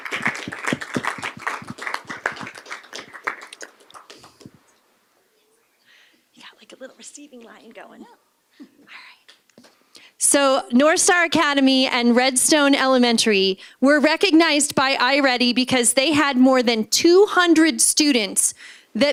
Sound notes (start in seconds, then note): 3.2 applause